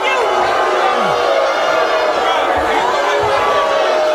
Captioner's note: audience booing